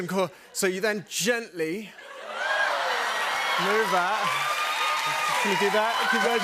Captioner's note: cheers and applause